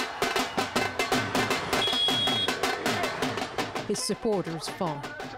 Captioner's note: cheers and Applause